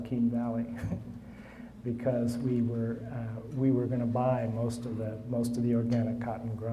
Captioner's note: laughing